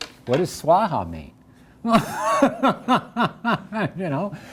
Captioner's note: laughs